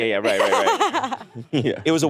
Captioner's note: laughing